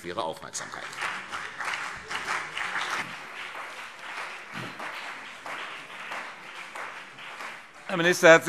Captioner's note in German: Beifall CDU und vereinzelt BÜNDNIS 90/DIE GRÜNEN